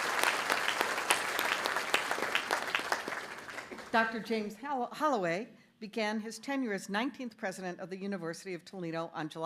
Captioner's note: applause